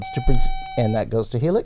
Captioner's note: buzzer